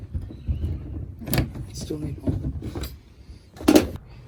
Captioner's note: lock clatters onto car roof